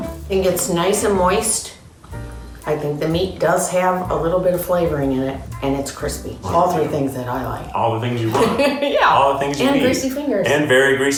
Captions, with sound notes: Mmm. I think it's nice and moist. I think the meat does have a little bit of flavoring in it and it's crispy. All three things that I like. - All the things you want. - (laughing) Yeah. - All the things you need. - And greasy fingers.